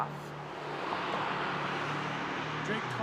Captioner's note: car whooshes past